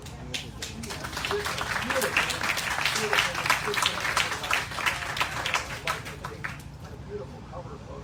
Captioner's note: applause